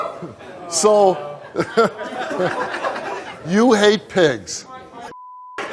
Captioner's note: beep